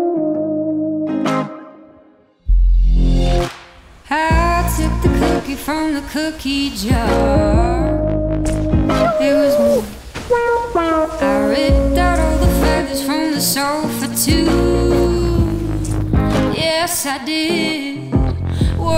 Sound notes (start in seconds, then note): 0.3 laid-back music continues; 9.4 yelling